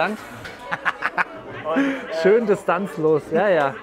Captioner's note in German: Er lacht